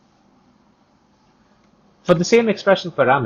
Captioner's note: click